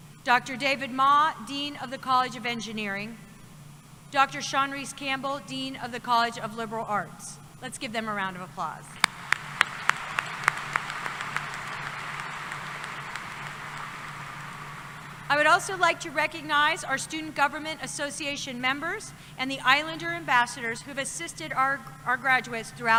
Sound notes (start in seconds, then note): 9.0 applause